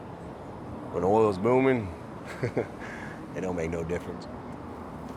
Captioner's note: laughs